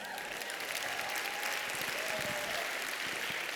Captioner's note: applause